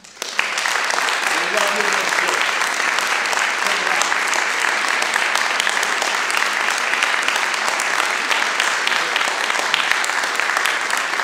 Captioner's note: applause